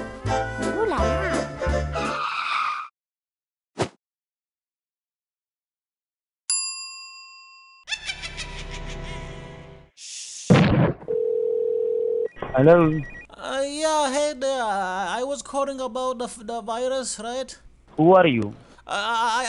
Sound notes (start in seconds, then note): 0.0 cheerful music; 7.8 evil laughter; 11.0 phone ringing